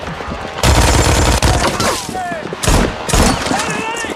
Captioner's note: officers shouting